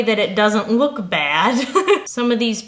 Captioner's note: laughing